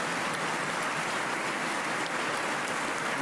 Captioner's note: applause